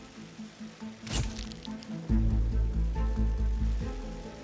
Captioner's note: camera flash pops